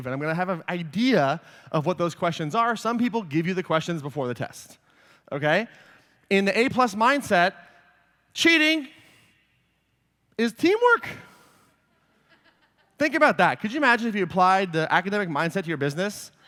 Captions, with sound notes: and I'm gonna have an idea of what those questions are. Some people give you the questions before the test. In the A-plus mindset, cheating is teamwork. (laughter) Think about that. Could you imagine if you applied the academic mindset to your business?